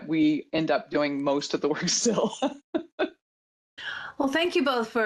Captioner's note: chuckles